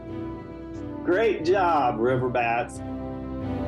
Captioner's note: speaks in foreign language